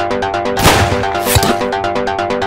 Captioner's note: gunshot